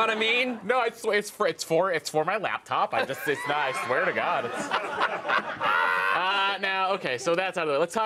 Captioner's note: laughter